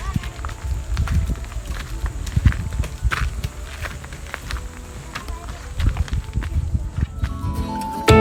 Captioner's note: footsteps